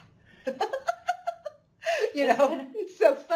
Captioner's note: laughing